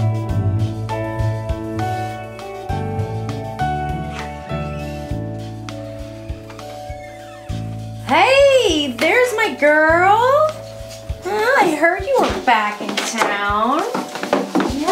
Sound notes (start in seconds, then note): 6.2 door squeaking